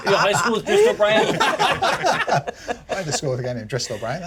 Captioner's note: laughter continues